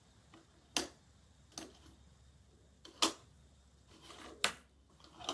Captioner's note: prototype clicking, marbles rolling and dropping